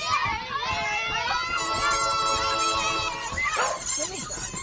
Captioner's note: loud kids and dog